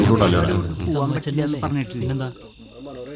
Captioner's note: indistinct chatters